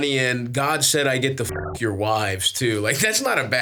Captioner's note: beeps